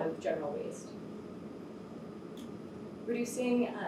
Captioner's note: air conditioner hums